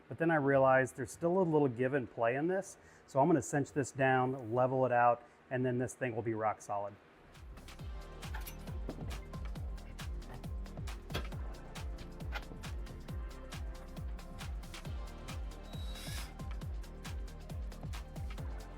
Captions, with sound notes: But then I realized there's still a little give and play in this. So I'm gonna cinch this down, level it out, and then this thing will be rock solid. (upbeat music) (tool organizer clanking) (drill whirring)